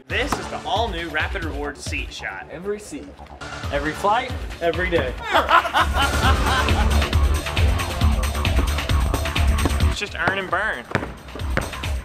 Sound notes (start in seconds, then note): 5.2 laughing